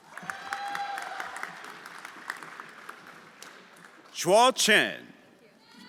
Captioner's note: everyone applauding